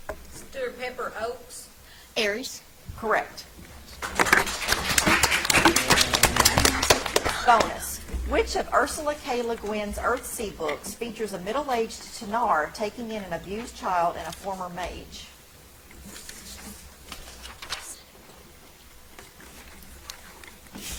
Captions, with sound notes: - Stewart Pepper, Oaks. - Aries? - Correct. (audience applauds) Bonus. Which of Ursula K LeGuin's "Earthsea" books features a middle aged Tenar taking in an abused child and a former mage?